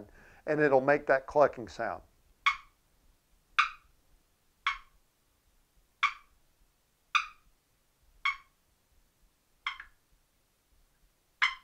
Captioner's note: turkey clucking sound